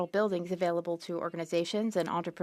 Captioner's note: speaking French